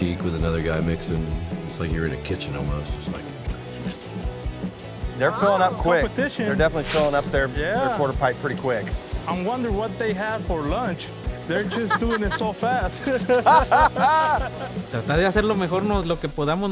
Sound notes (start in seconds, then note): 5.3 pat; 11.5 laughs